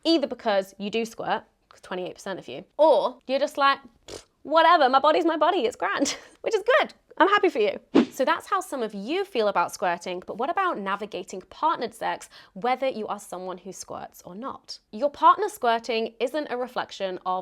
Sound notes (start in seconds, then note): 4.0 blows raspberry